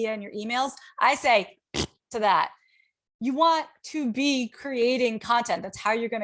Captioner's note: makes raspberry sound